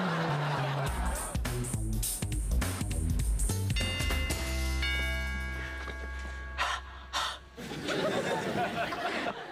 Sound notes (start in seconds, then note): 3.7 doorbell rings; 7.0 exhales twice